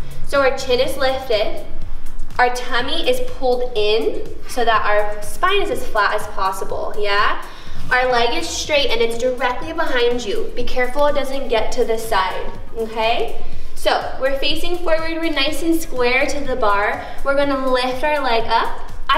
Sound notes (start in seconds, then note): none